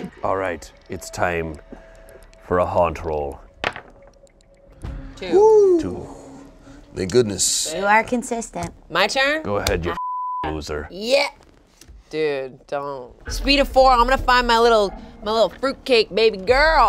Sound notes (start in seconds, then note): 9.9 beep